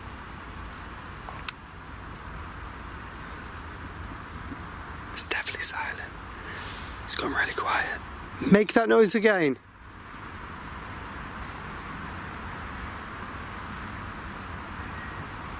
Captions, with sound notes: (whispers) It's definitely silent, it's gone really quiet. (regular voice) Make that noise again.